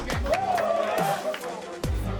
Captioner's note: players cheer